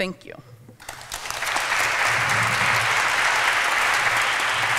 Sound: applause

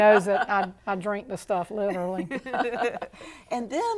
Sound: laughing

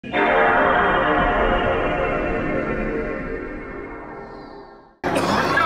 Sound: station 2 startup sound

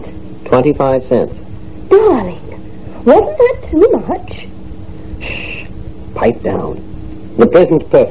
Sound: in a louder whisper

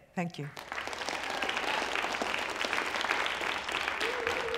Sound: applause

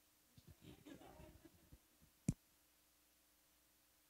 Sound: audience chuckles

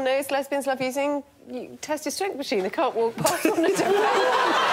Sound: laughter

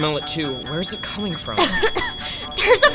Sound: coughs

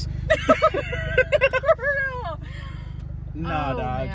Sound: both laughs

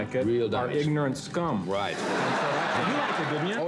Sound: laughter

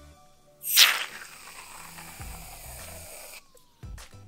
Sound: whirling

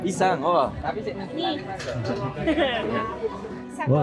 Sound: laugh

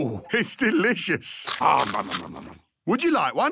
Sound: crunching

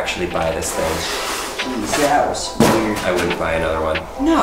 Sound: Thought Box clatters

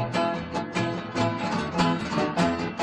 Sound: none

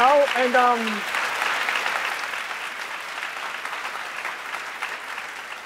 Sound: applause

